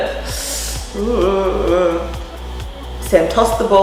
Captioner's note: intake of breath